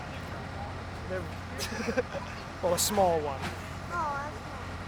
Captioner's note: chuckles